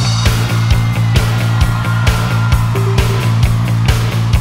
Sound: crowd cheers; high-energy rock music

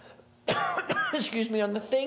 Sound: presenter coughing

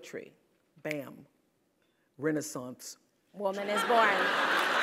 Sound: laugh

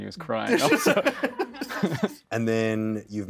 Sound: both chuckle

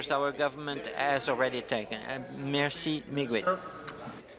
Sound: speaking in French

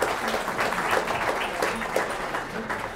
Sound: applause

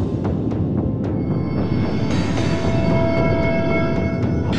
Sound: ominous music; magical hum; clanking of metal; ominous music

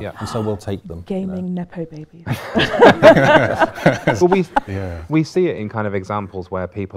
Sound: laughter

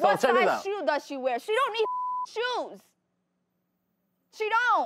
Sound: beep

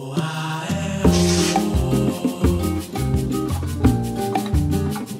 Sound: screen whooshing; upbeat music

